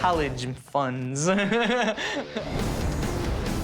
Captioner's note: laughs